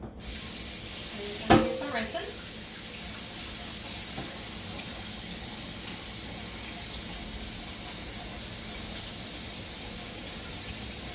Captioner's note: sound of rinsing